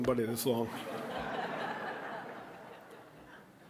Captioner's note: audience laughing